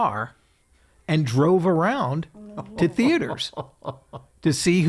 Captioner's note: laughing